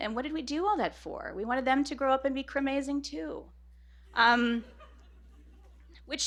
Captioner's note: laughter